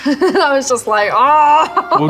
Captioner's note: Millie groans